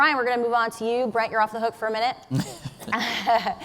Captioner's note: laughs